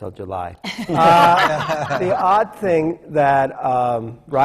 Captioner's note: laughs